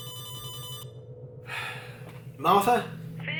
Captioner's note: sighs